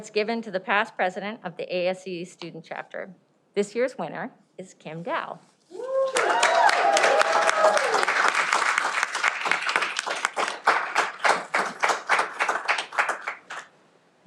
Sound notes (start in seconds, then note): 5.8 cheering